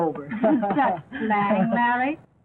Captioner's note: laughs